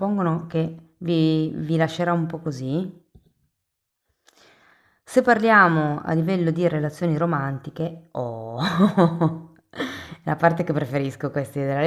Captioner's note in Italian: risate